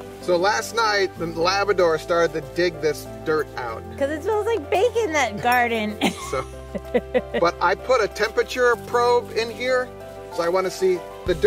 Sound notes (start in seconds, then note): 6.0 chuckles; 10.7 upbeat electronic music